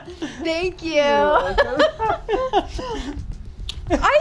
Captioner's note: both laughing